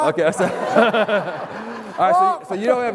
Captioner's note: laughter